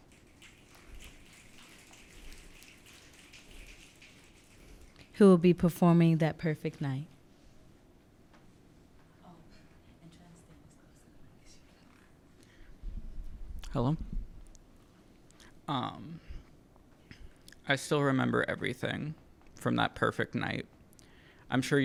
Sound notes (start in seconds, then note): 0.0 audience snapping